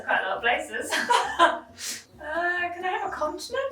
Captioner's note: both laughing